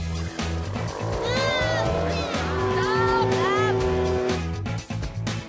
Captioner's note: roar of the engine